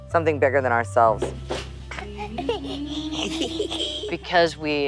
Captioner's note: baby laughing